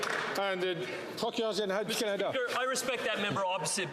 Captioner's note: some Applause